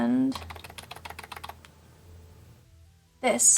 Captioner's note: keyboard clicks